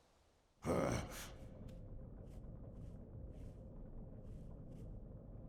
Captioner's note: Sorcerer Beast grunts